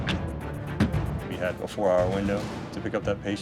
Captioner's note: door closes; tap